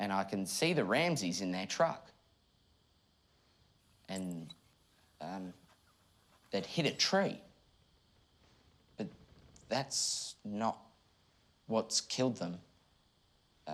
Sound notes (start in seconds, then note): none